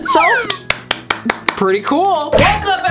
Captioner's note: clapping